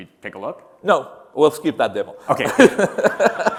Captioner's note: laughter